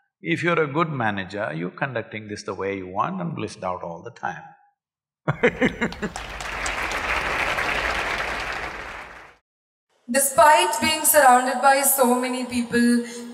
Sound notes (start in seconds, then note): 5.3 laughs; 8.2 applause